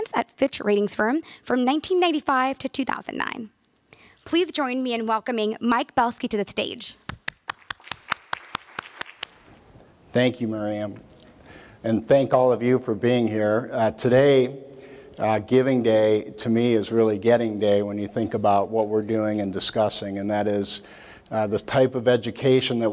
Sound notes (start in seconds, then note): 7.1 applause